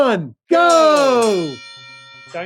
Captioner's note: bell ringing